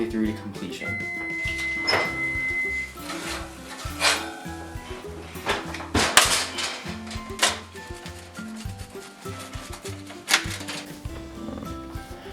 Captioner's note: timer Beep, Kitchen Sounds